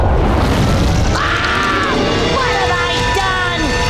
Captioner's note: screaming